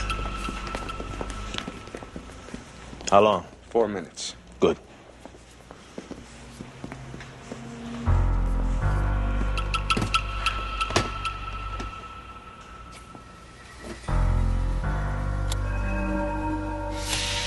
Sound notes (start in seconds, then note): 15.4 Таймер звуков сигнал